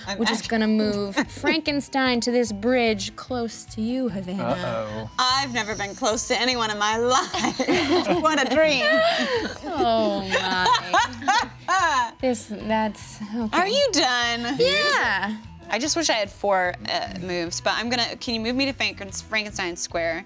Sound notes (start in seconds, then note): 7.2 group laughing; 11.1 laughing